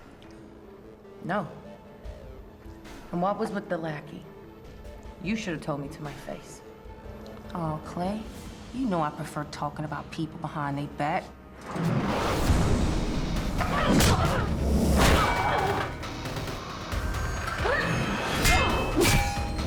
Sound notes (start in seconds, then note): 11.1 grunts